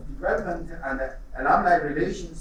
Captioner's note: none